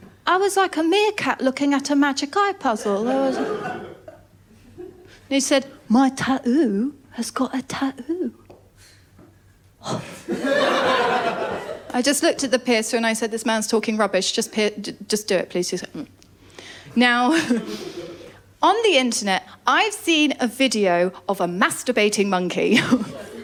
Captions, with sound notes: I was like a meerkat looking at a magic eye puzzle. [LAUGHTER] He said, “My tat-ooo has got at tat-ooo." [LAUGHTER] I just looked at the piercer and I said, “This man’s talking rubbish." "Just do it please.” He said, “Mmm.” Now, on the Internet I’ve seen a video of a masturbating monkey.